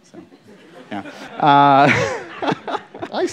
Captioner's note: laughter